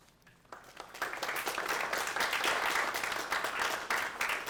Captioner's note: applause